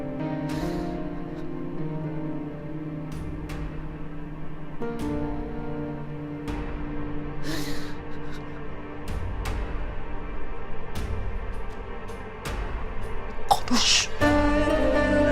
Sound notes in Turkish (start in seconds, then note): 0.2 Müzik - Gerilim; 7.4 Ağlama sesi; 7.5 Müzik - Gerilim